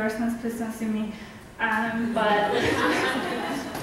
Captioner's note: audience laughs